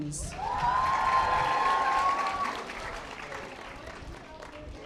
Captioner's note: audience applause